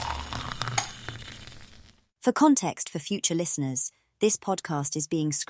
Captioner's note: cuppa sound